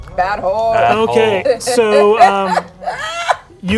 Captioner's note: laughing